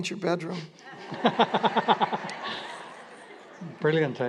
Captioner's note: laughter